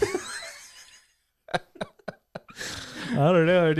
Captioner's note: laughing